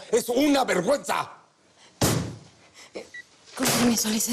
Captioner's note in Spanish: Manotazos